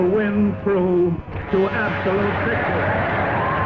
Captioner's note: applause